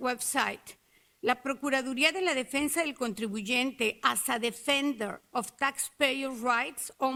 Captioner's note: speaks Spanish